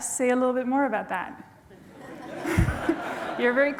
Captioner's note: laughter